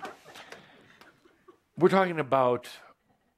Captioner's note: laughter